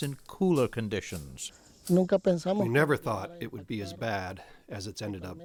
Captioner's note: through translator